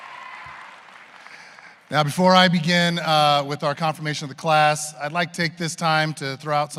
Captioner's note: applause